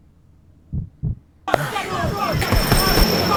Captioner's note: heartbeat